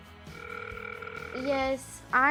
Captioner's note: ringing